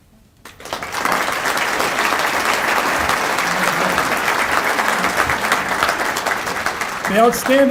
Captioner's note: applause